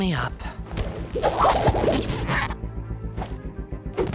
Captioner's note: rubbery squeaking